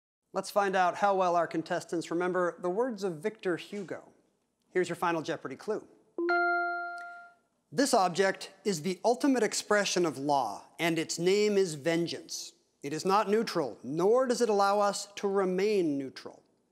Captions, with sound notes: - Let's find out how well our contestants remember the words of Victor Hugo. Here's your Final Jeopardy! clue. (bell dings) This object is the ultimate expression of law, and its name is vengeance; it is not neutral, nor does it allow us to remain neutral.